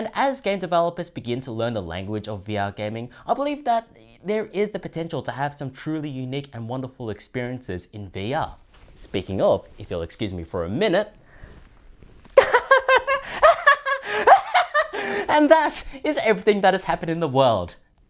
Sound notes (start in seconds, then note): 12.4 maniacal cackling